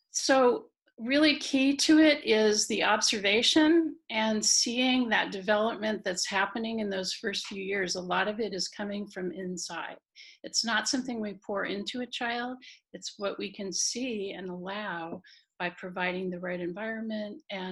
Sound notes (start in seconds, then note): none